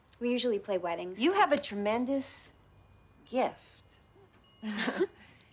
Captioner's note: chuckles